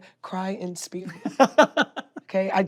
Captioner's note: laughs